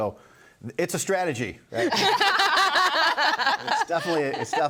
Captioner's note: group laughs